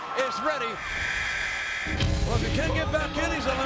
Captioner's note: bell tolls; buzzer sounding